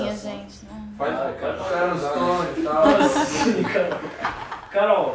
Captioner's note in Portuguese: risos